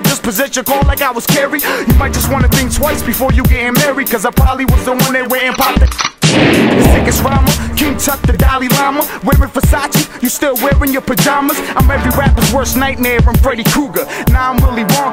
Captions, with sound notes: possessed your car like I was carried/ You might just want to think twice before you gettin' married/ ‘Cause I prolly was the one that went an' (click, click, boom)/ The sickest rhymer, King Tut, the Dalai Lama/ Wearin’ Versace, you still wearin’ your pajamas/ I’m every rapper’s worst nightmare, I’m Freddy Krueger/ Nah, I’m Willy Wonka,